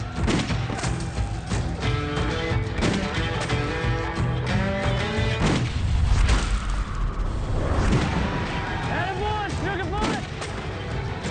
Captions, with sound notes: (gun fires) (adventure music) (gun fires) - Better win, Sugar Foot!